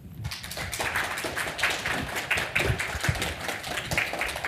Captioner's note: audience applauding